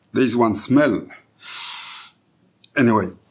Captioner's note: sniffing